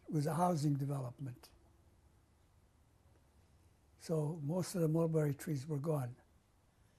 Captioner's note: pauses for 3 seconds